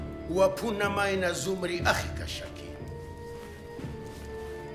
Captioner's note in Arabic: الصوت المنطوق البدوي